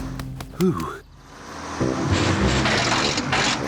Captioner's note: bus splutters